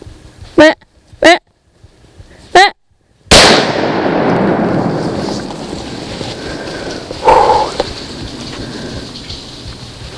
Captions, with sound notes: Ehhh!, Ehhh! [Gunshot] Wheww!